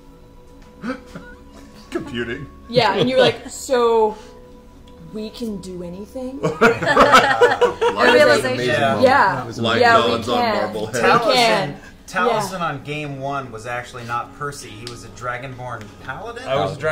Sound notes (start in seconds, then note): 6.4 all laugh